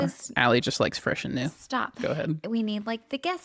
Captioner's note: laughs